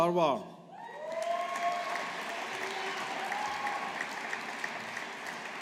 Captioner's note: audience applauding